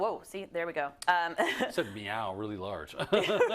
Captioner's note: laugh